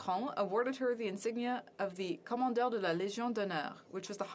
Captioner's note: speaking French